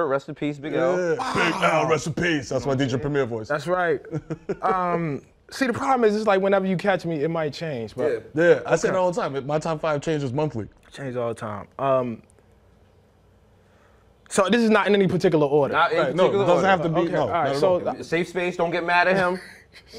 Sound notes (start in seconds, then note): 1.8 deep voice